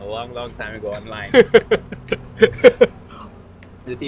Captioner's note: laughs